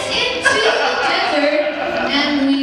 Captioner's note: laughs